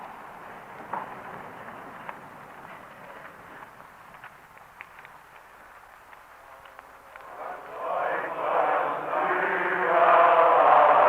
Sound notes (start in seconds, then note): 4.1 applause